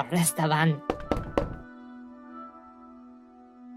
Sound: knocks at the Door

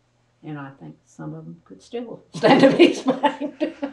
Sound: laughs

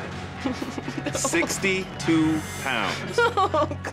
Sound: chuckling

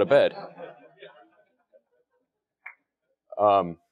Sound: laugh

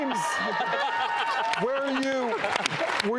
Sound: laughter

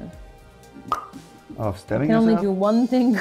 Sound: tongue pop

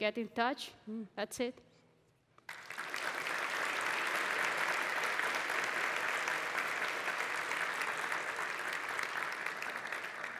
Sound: applause

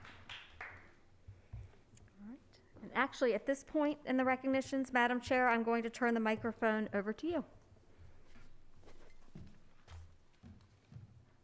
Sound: applause

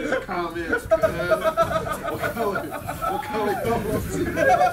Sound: laugh

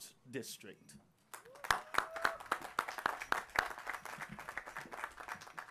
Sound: applause

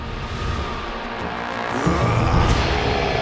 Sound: screaming

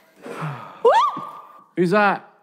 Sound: screaming

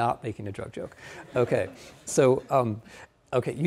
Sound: audience laughing

